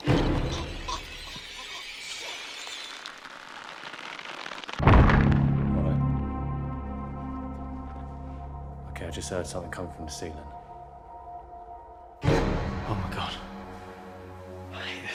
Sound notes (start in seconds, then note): 3.2 rope creaking; 5.0 dramatic music; 5.0 thudding; 12.5 dramatic music